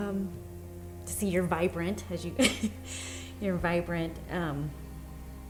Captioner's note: laughs